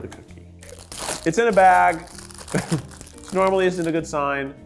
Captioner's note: bag crinkles